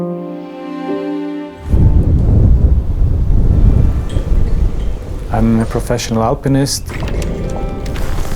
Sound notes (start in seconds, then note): 1.5 wind blows